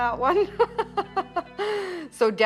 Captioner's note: laughs